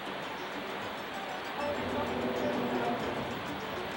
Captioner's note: water rushing